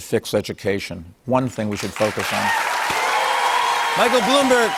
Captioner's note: cheers and applause